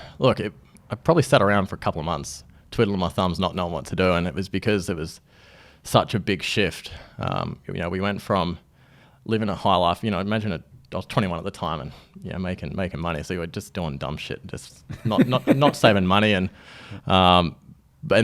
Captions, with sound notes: - Look, I probably sat around for a couple of months twiddling my thumbs, not knowing what to do, and it was because it was such a big shift. We went from living a high life. I mentioned I was 21 at the time and making money, so we were just doing dumb shit, (laughs) just not saving money.